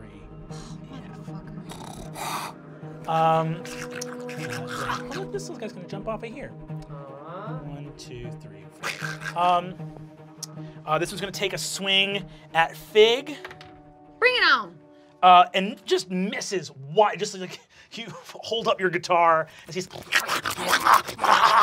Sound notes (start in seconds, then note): 3.4 snarling; 13.4 dice clacking; 19.8 snarling